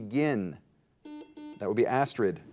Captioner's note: buzzer dings